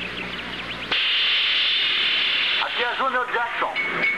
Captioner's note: Junior Over P.A